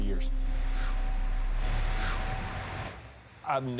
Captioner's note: pensive music; Undertaker exhaling